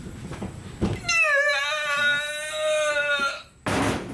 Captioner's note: squeals